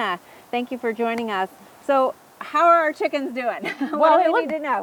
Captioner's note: laughs